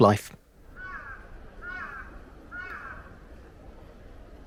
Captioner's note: sound of bird calling